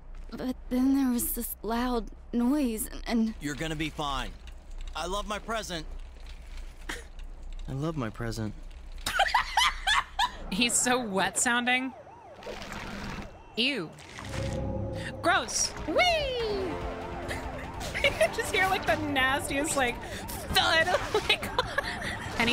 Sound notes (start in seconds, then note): 9.0 laughs hysterically; 12.4 moist, squelchy transformation sounds; 17.9 laughing